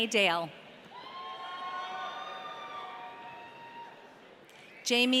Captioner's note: audience cheering